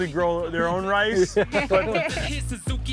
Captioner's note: everyone laughing